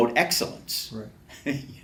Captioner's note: laughs